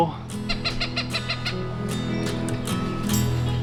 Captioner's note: birds calling